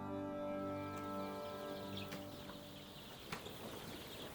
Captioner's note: chicks cheeping